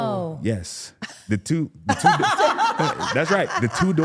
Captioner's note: laughing